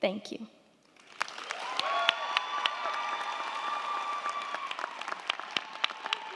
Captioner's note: crowd clapping; crowd cheering